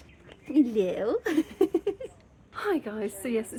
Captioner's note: laughing